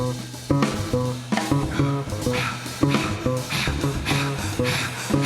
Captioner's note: panting rhythmically